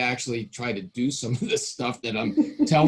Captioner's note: laughing